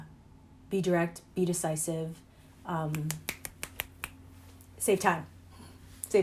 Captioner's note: snapping